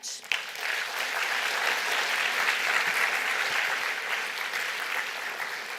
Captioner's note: applause